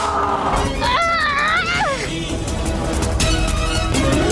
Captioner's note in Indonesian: berteriak